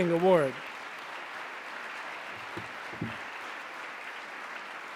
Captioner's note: audience applause